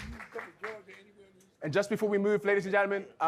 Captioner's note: audience clapping